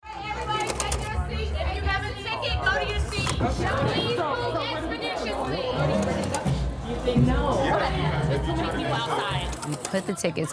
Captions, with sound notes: - Okay, everybody take your seat! If you have a ticket, go to your seat! And please, move expeditiously! (crowd chattering) - Are you ready to go? - No, there's too many people outside.